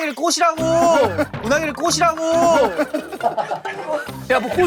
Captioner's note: frustrated